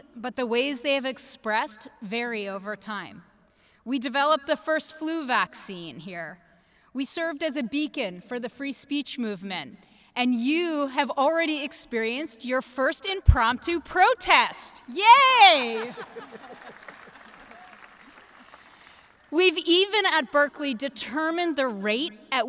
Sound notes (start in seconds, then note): 15.6 everyone laughing; 17.9 audience clapping